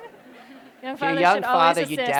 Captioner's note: laughter